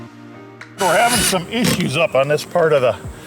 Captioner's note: drill machine drilling